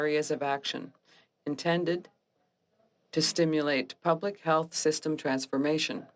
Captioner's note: speaking French